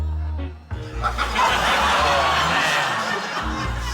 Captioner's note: laughter